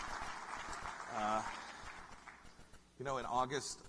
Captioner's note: laughter and applause